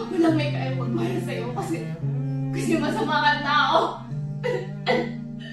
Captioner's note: Eli speaking to herself